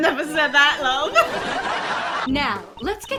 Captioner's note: laugh track